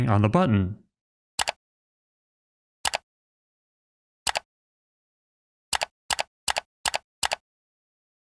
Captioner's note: mouse click sounds